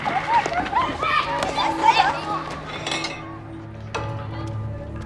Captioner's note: church bell ringing; children hollering; ominous music